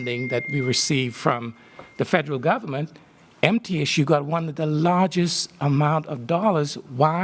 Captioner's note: cell phone interruption